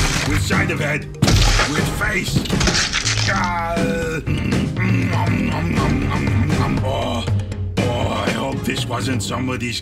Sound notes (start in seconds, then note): 0.0 head thudding; 2.5 face thudding